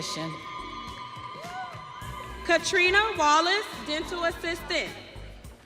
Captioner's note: audience cheering